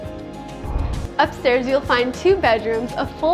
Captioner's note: air whooshing